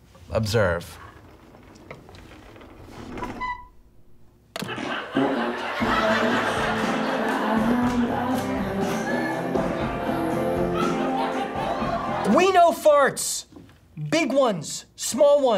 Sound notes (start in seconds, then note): 4.6 fart noise; 7.8 people laughing